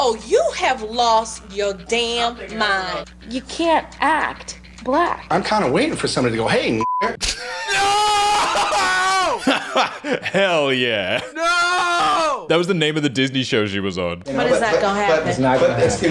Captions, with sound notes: - Oh, you have lost your damn mind. - You can't act black. - I'm kinda waiting for somebody to go, hey (beep). (laughing) - No! (laughing) - Hell yeah. - No! - That was the name of the Disney show she was on. - But it's not gonna happen.